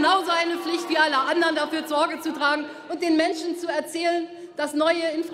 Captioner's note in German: none